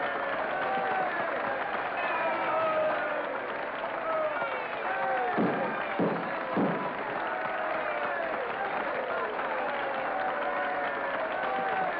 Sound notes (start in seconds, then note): 5.5 audience cheers and applauds; 5.5 gavel thuds